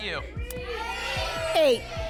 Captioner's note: audience shouting numbers